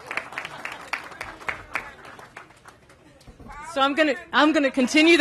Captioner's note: applause